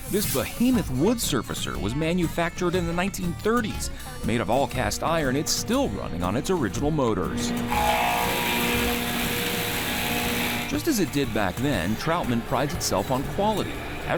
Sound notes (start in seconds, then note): 8.8 surfacer buzzing